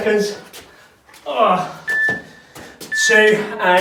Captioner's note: grunts